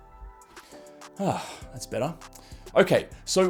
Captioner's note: host sighs